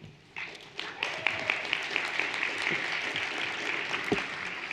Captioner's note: everyone applauding